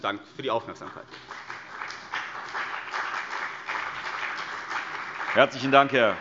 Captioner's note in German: Beifall CDU und BÜNDNIS 90/DIE GRÜNEN